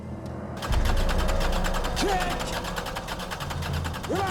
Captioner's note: engine sputtering